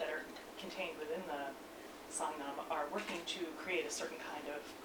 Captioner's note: non-english speech